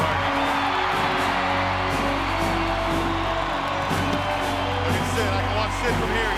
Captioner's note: crowd cheering; dramatic music